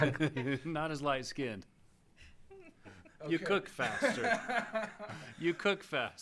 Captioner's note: laughing